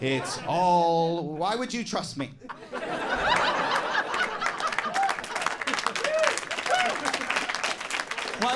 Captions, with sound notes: It's all... Why would you trust me? (audience laughing and applauding)